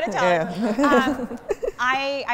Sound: laughter

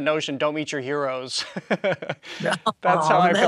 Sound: laughs

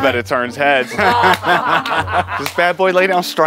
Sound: all laughing

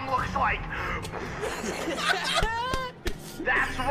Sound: uncontrollable laughter

